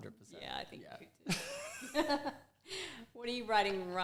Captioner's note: both laugh